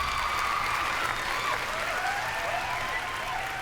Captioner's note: cheering and applause